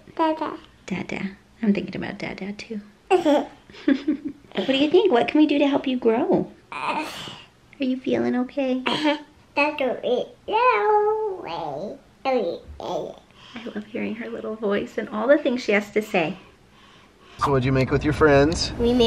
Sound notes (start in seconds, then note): 3.7 laughs; 6.5 coos; 8.9 babbles